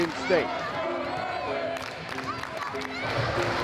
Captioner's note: crowd cheering